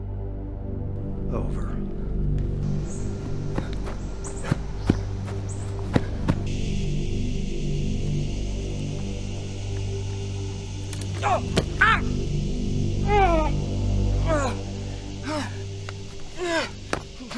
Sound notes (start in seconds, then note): 3.1 suspenseful music; 11.8 Isaac groaning